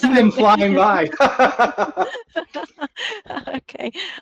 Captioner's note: laughing